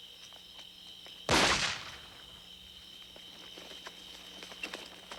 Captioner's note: gun firing